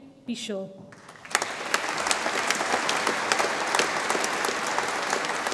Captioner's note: audience applauds